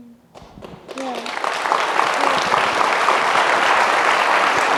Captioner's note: audience applauding